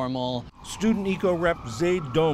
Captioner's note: voice-over